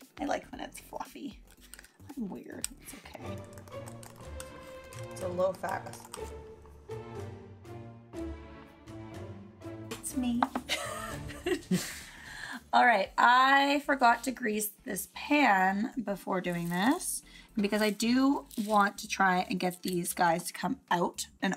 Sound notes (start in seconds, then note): 11.4 laughs